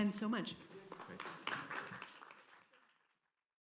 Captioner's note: applause